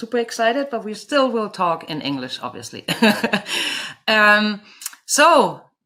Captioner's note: laughs